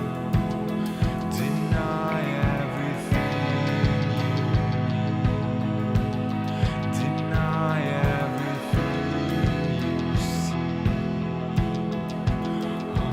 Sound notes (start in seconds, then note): none